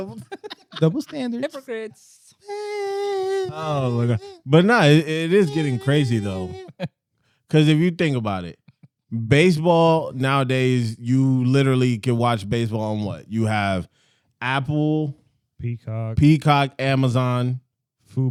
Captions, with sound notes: Double standards. Double standards. Diplogrids. (Baby Crying) But no, it is getting crazy though. Because if you think about it, baseball nowadays you literally can watch baseball on what? You have Apple. Peacock. Peacock, Amazon.